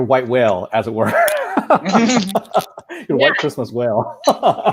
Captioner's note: laughing